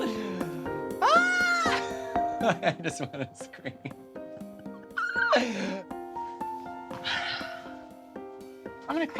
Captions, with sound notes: [shrieks] I just want to scream. Ha ha ha. [squeals]